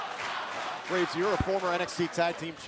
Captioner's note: crowd cheering